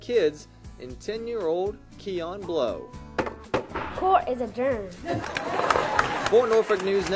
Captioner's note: applause